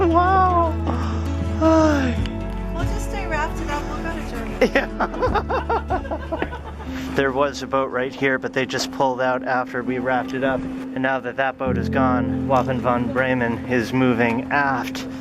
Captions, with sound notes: Wow! We'll just stay rafted up. We'll go to Germany. (laughter) There was a boat right here, but they just pulled out after we rafted up. And now that that boat is gone. Wappen von Bremen is moving aft